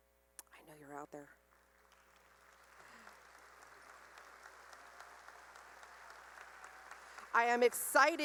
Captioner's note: cheering and applause